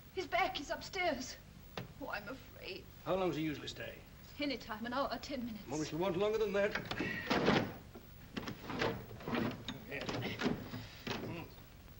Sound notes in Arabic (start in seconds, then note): 6.3 ضوضاء المكتب; 8.4 ضجيج المكتب